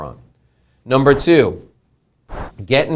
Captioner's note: whooshing